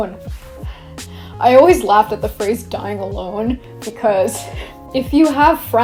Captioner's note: laughs